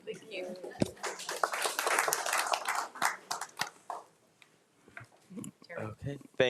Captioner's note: crowd applauding